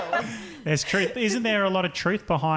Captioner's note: laughing